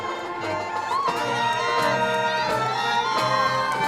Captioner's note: crowd cheering